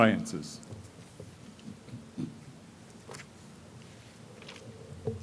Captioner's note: pause